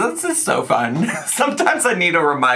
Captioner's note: laughing